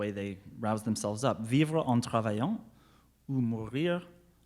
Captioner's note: speaks French